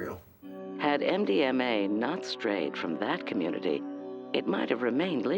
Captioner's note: voiceover